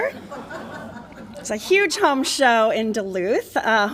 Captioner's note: laughter